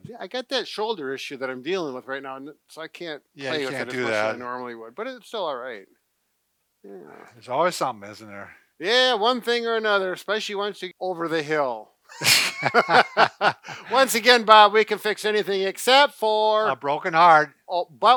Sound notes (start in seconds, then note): 12.1 both laugh